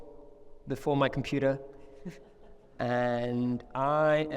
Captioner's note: chuckles